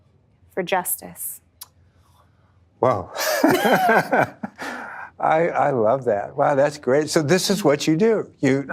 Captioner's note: laughing